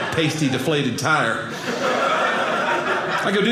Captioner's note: audience laughing